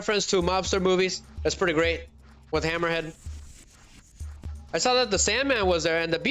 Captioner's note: none